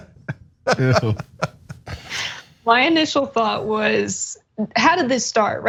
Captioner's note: laugh